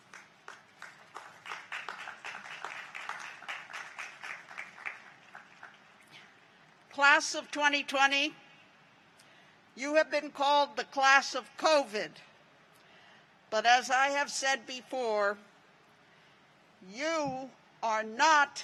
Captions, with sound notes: AND WE WISH THEM BACK SAFELY ON THE CAMPUS AS SOON AS POSSIBLE. [APPLAUSE] CLASS OF 2020, YOU HAVE BEEN CALLED THE CLASS OF COVID.